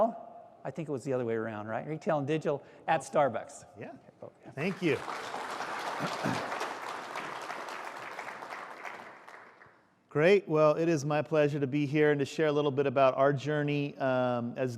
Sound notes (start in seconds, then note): 4.5 applause